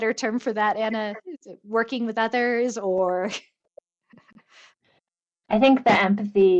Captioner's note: chuckles